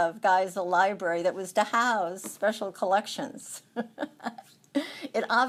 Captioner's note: laughs